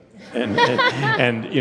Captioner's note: audience chuckling